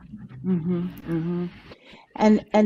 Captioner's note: car engine roaring